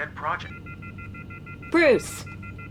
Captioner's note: phone beeping